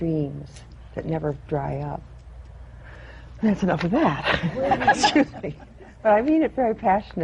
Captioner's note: laughter